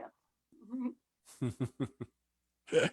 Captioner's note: chuckles